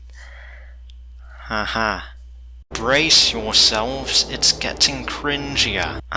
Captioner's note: dramatic Voice